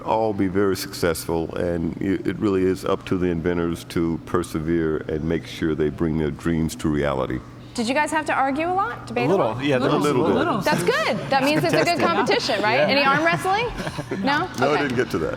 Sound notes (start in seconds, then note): 10.7 chuckles